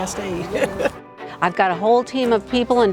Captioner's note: laughing